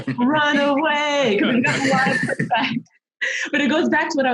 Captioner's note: laughs